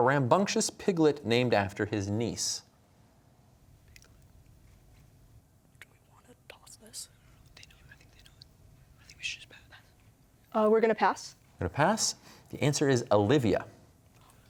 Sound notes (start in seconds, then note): 5.6 whispering; 7.5 others whispering